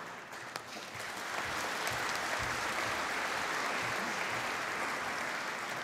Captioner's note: applause